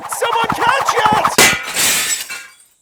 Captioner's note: shatters